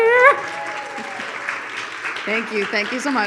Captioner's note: audience applauds